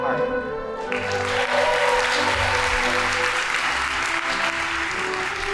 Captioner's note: audience applauding